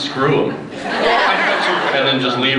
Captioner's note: laughs